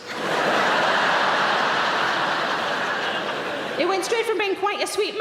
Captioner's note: audience laughing